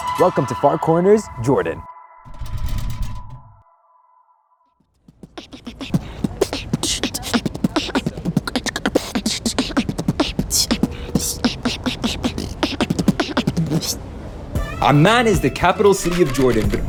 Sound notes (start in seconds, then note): 5.0 beatboxing